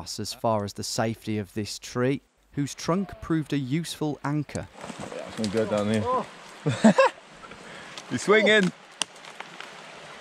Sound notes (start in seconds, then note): 6.6 laughs